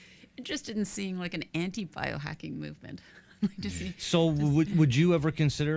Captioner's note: chuckles